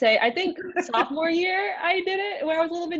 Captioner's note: laughs